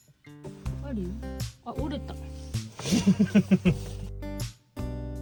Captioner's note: laughs